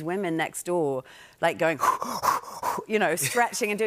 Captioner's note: breathing heavily